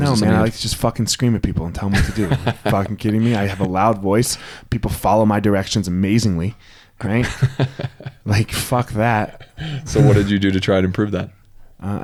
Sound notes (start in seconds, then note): 2.0 laughs; 8.5 laughs